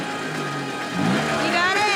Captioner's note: engine revving